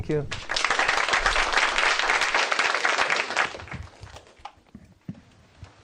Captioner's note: applause